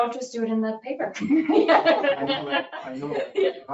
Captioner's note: people laugh